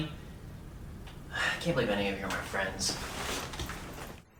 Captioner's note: sighs